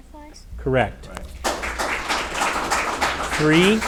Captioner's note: audience applauding